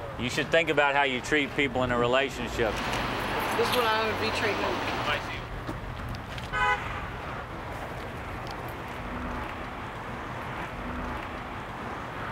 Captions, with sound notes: You should think about how you treat people in a relationship. This is the way I would be treating him. [HORN HONKING]